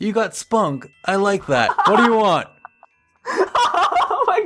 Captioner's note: more laughing; laughing in the background